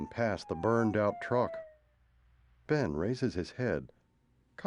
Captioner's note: siren wailing in distance